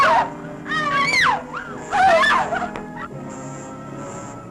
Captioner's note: girls screaming; dramatic music